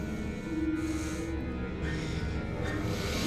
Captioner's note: breathing heavily